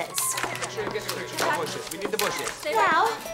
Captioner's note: chattering continues